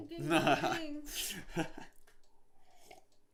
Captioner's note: laughing